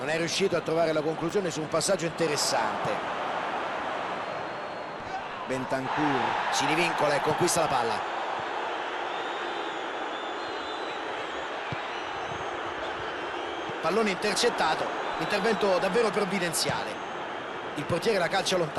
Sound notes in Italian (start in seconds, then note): 6.1 Applauso